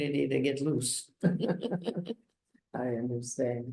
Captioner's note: laughs